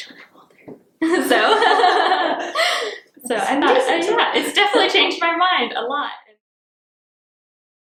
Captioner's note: laughs